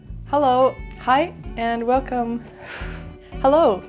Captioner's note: exhales